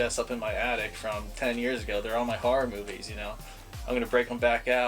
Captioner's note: none